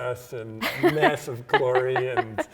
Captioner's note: laughing